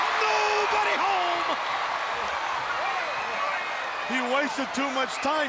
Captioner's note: crowd cheering